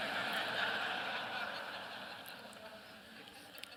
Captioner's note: laughter